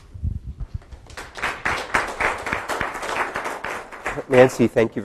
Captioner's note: audience applauds